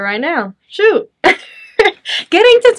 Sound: chuckles

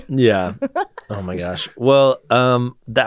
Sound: laughs

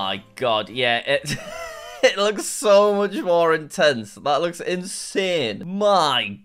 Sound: laughs

